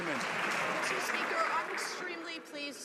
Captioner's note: some Applause